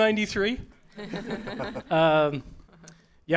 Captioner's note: chuckles